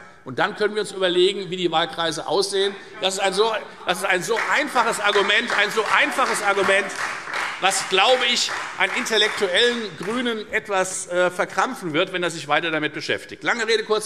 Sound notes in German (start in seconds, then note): 3.8 Beifall Freie Demokraten